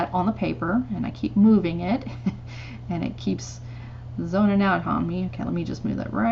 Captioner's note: giggles